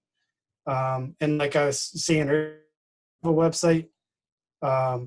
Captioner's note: distorted speaking